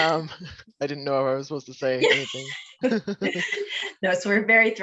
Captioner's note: laughs